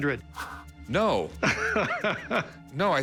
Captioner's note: laughs